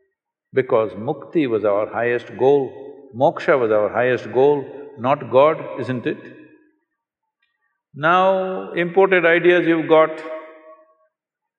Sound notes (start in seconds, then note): none